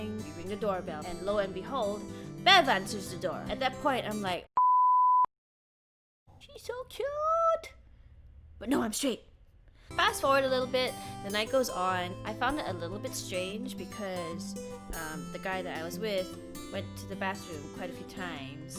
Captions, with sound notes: We ring the doorbell and lo and behold BEV ANSWERS THE DOOR At that point I'm like *BEEP* She's so kyooooooot BUT NO I'M STRAIGHT Fast forward a little bit, the night goes on. I found it a little bit strange because the guy that I was with went to the bathroom quite a few times.